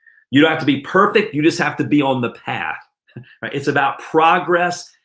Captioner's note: chuckles